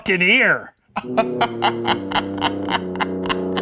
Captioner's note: laughing